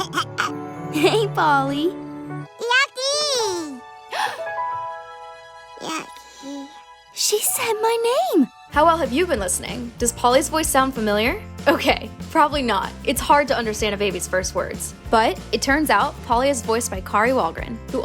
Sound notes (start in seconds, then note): 4.1 Lucky gasps